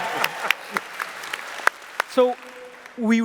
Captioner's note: applause